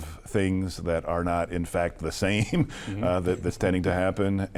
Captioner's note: chuckles